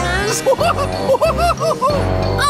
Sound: laughing

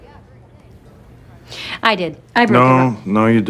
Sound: sharp inhale

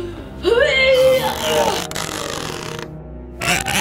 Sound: grunts

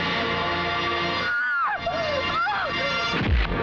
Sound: choking

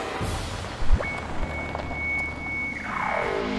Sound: car pulling up

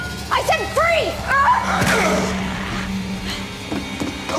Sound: grunts

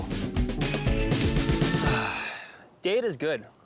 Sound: sighs

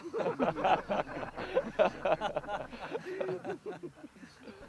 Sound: laughter

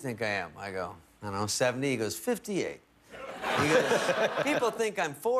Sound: laughter

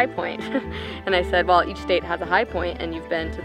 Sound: giggling

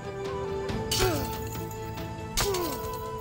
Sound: Zincir sesleri

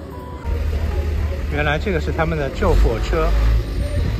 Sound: fire truck

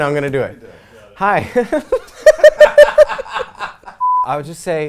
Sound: laughs

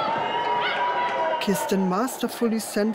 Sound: crowd cheering

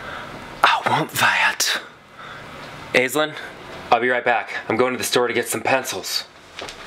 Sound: gasps

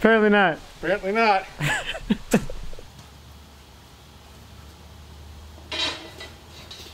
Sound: laughing

